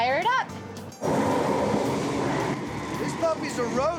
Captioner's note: whooshing sound